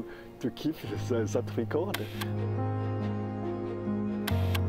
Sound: camera cliking

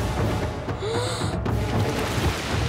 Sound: gasping

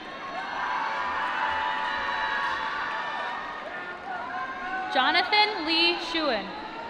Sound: applause

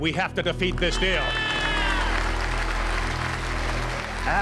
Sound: applause

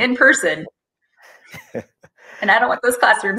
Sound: chuckling

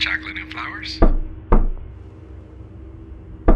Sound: knock, knock

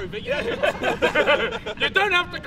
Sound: laughter

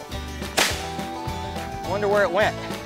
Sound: firework pops

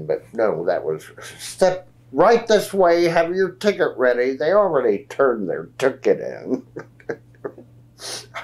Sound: laughs

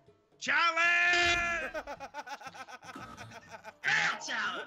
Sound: laugh

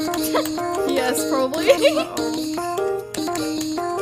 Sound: giggles

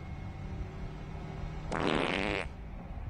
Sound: fart

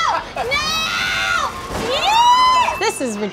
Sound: screaming

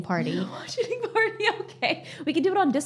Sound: chuckles

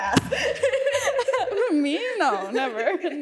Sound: both laughing

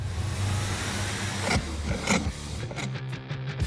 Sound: sawing

